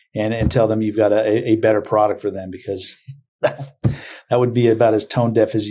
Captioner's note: laughs